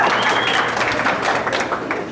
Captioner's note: whistle; applause